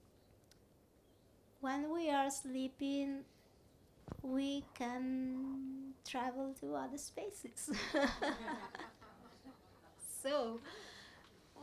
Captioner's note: laughs